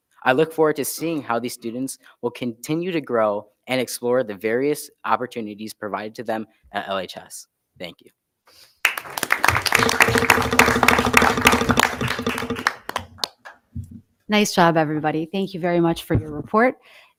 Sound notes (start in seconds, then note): 8.8 audience applause